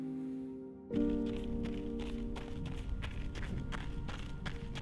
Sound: snow squelching

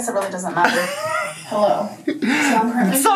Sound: laughs

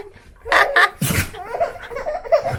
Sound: sneezing; baby laughs

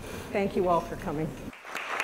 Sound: applause

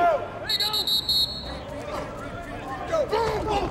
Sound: whistle

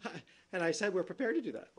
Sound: laughter

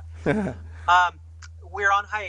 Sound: laughs

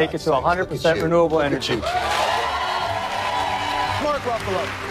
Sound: audience cheers and claps

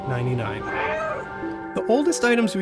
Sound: meow

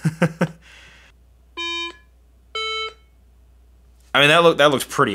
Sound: laughs; iPhone beeping

